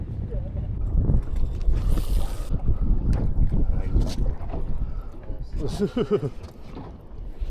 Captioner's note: wind blowing